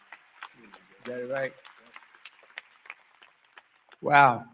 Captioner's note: cheering